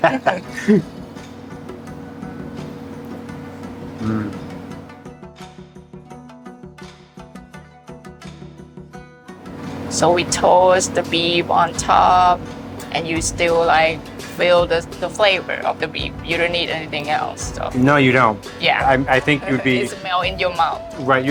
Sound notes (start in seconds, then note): 0.0 laughs; 3.6 savoring; 4.1 inspiring music